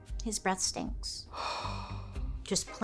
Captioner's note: breathing heavily